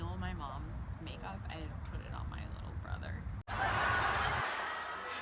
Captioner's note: audience laughs